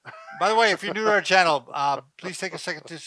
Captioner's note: laughs